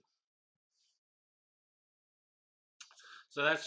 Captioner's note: pause